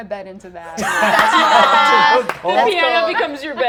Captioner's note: all laughing